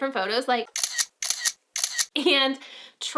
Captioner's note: shutter clicks